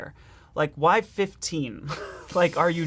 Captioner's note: laughing